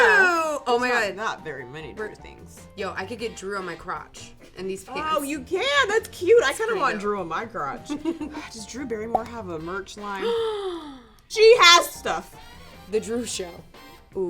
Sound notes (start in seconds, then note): 7.9 laughs; 10.2 gasps